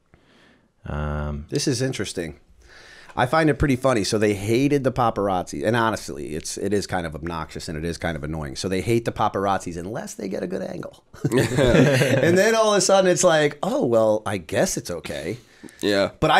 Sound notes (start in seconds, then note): 11.4 chuckle